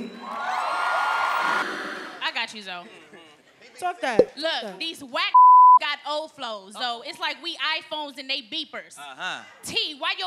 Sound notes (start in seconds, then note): 0.2 applause; 5.3 beep